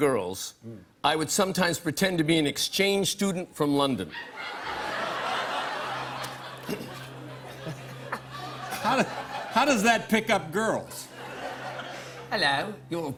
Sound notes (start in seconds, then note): 4.1 laughter; 6.3 clears throat; 12.0 cockney accent